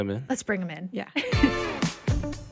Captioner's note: chuckles; upbeat music